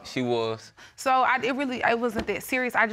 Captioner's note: stammering